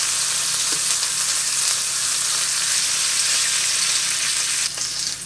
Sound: sizzle

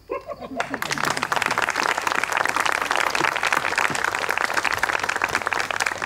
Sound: applause

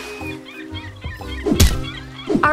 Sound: seagulls squawking; air swooshing

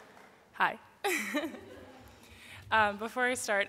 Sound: giggles

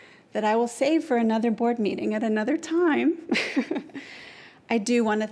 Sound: chuckles

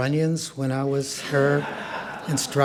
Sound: audience laughs

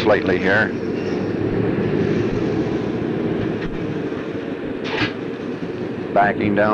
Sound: sound of the train moving

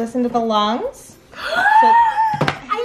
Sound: gasp

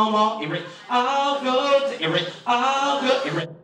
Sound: beatboxing

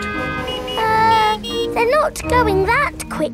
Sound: horns honking

